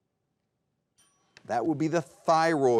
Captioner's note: timer dinging